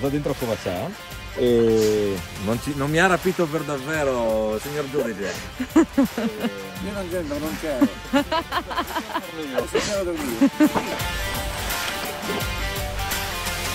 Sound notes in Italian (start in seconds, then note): 5.4 ride; 7.8 altre risate